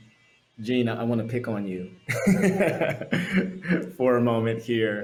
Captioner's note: laughs